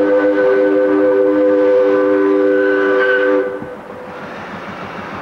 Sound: whistle blowing

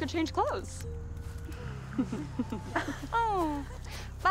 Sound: Queens chuckling

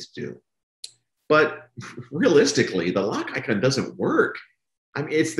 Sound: laughs

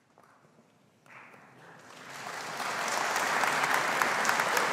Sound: audience applauding

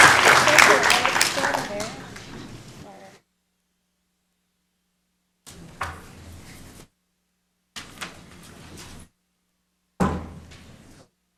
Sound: applause

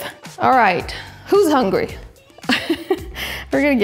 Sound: laughs

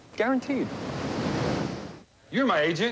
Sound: wave crashing

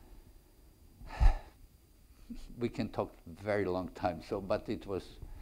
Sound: sighs loudly

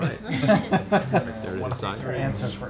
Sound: laughter

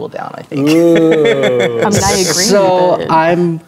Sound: laughing

